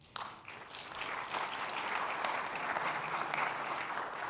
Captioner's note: audience clapping